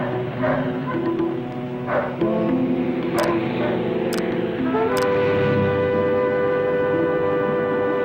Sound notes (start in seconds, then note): 0.5 dog barking in distance; 3.8 suspenseful music